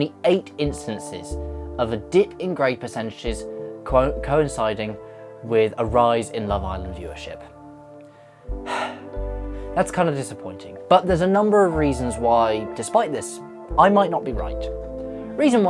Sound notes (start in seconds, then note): 8.1 sigh